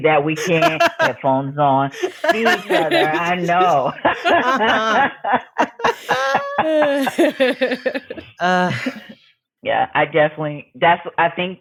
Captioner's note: all laughing